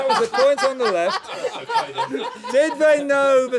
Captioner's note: laughter